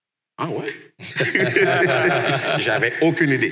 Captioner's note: laughs